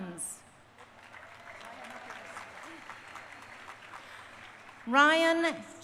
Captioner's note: crowd applauding